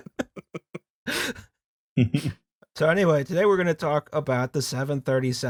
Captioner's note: laughter/sobbing